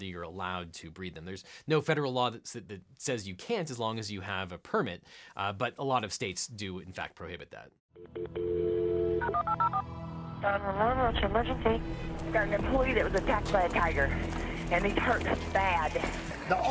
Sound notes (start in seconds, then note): 7.9 dial tone; 8.1 suspenseful music; 9.2 phone numbers beeping